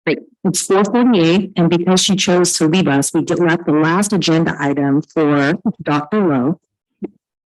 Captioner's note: audio echoing